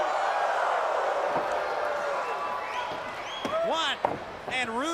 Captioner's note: crowd chatter